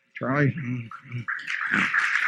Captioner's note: applause